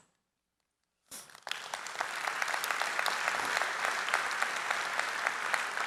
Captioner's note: applause